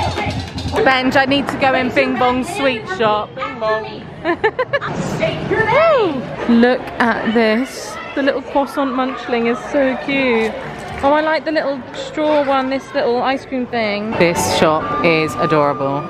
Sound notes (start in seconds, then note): 4.2 giggling